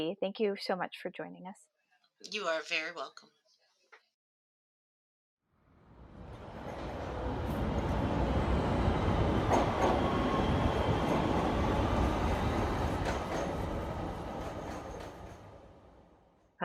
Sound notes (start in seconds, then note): 5.7 train sounds